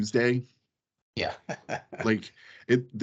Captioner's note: laughing